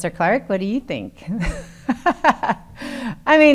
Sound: laughing

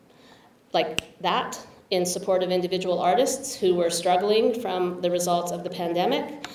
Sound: snaps fingers

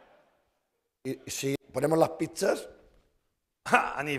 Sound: speaking spanish

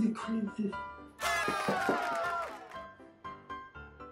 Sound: cheering again

